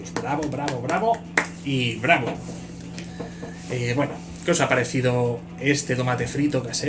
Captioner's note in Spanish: aplausos